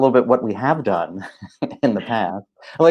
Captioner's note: laughing